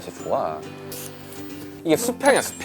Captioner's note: whiff